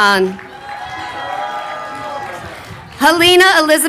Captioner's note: crowd cheering